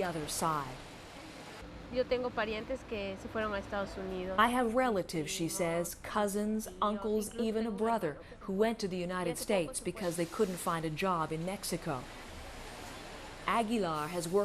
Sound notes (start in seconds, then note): none